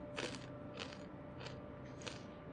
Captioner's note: Fritos crunching